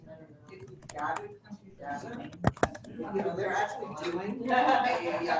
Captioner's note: audience discussion